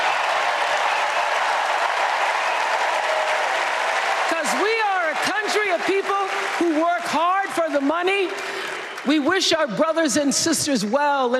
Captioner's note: cheers and applause